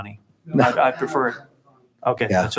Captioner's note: speaking away from microphone